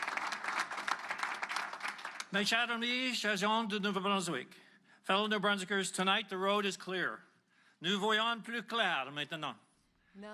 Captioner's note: applause